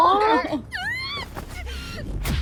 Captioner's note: squeals